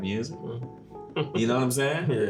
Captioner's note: chuckle